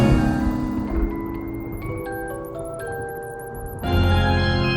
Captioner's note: spooky magical music continues; thunder rumbles; bats squeaking; spooky magical music continues